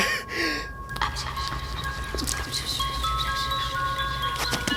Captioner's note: anonymous whispering